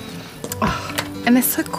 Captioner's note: gasps